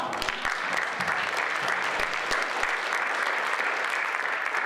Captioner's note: audience applauds